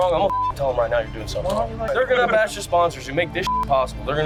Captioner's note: beep